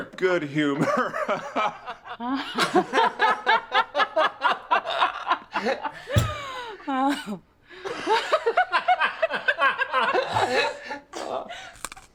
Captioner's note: laughing